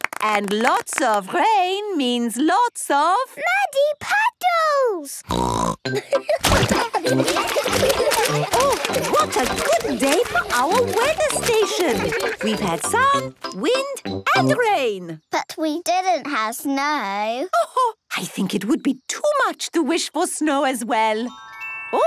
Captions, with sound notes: And lots of rain means lots of? - Muddy puddles! (snorting) (laughter) - Oh, what a good day for our weather station. We've had sun, wind and rain. - But we didn't have snow. - Oh-ho! I think it would be too much to wish for snow, as well.